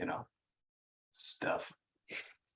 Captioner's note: chuckle